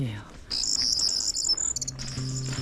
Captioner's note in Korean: 새소리 상쾌